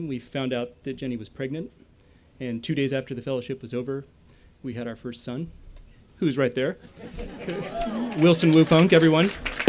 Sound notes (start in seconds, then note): 7.0 cheering; 7.2 applause